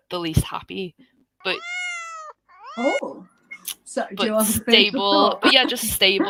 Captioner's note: miaow sound